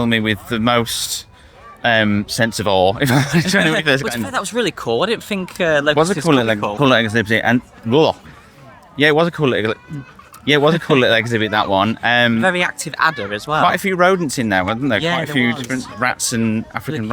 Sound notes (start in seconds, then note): 3.0 laughing